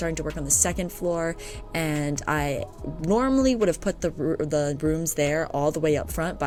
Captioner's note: stutters